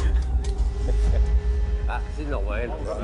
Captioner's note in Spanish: Risas